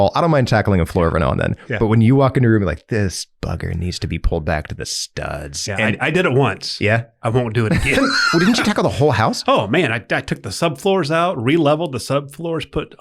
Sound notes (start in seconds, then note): 7.6 both laughing